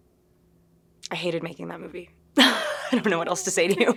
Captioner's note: laughing